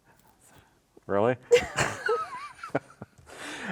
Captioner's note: both laughing